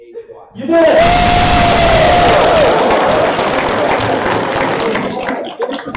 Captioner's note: applause and laughter